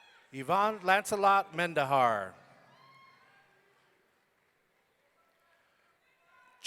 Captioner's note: audience cheering